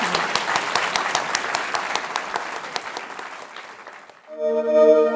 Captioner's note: applause